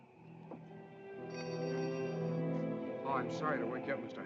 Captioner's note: door bell jingling